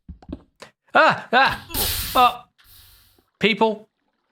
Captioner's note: lava hisses